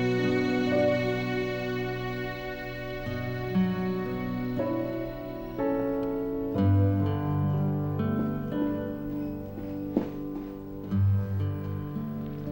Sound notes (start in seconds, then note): none